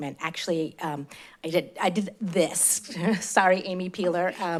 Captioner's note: chuckles